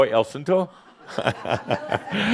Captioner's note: Adamus chuckles